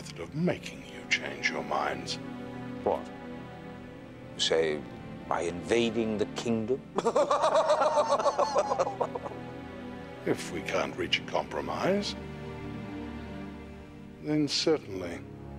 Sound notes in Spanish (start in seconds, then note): 6.9 Xax y Kreel riendo